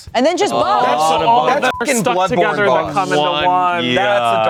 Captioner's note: beep